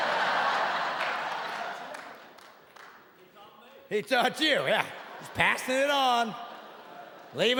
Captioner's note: audience laughing